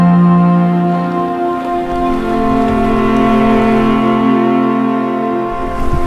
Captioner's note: the sound of rushing water